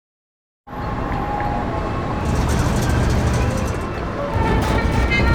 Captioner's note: cacophony of city buzz